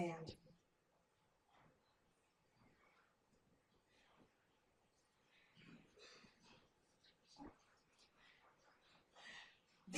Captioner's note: silence